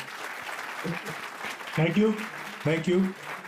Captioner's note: audience clapping